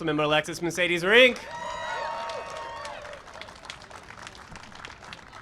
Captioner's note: applause and cheering